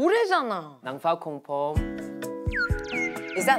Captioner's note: in Thai